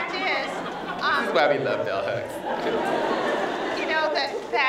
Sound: laughter

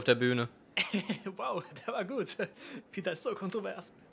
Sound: laughs

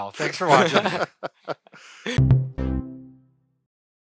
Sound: laughing

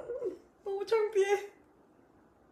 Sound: weeps

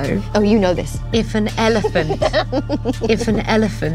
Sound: giggles

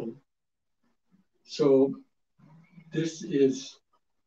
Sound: speaks Japanese

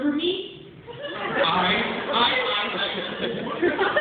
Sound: laughter

